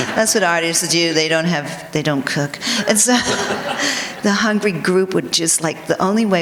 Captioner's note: laughter